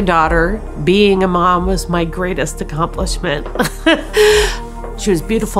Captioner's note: laughs